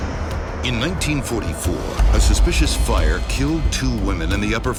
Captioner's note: voiceover